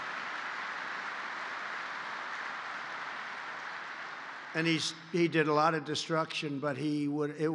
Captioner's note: applause